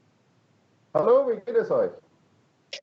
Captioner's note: German